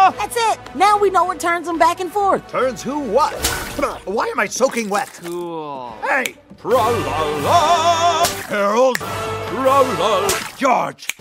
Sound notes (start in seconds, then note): 8.2 splash; 10.2 splash; 11.0 snap